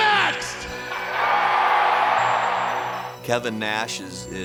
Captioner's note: audience cheers